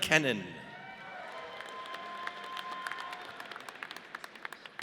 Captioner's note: audience cheers